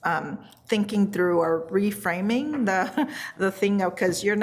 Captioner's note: laughs